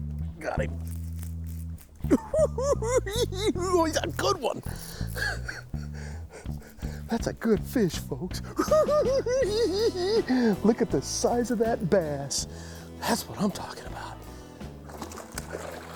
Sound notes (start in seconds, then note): 2.0 laughs; 4.6 chuckles; 8.3 laughs